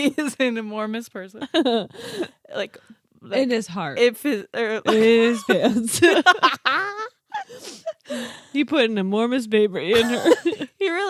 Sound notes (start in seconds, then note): 6.0 laughing